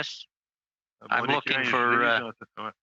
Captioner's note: speaking French